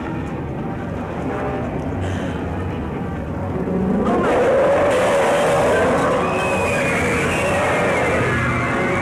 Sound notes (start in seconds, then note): 4.0 roaring; 4.2 screaming